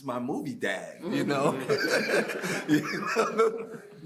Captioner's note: laughing